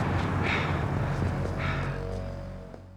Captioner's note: panting